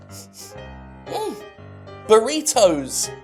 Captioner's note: sniffing